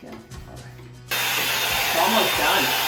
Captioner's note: dryer whirring